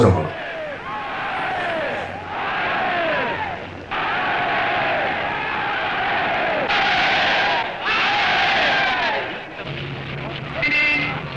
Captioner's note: cheers